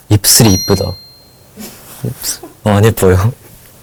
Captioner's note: staff laughing